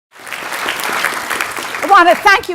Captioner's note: audience applauding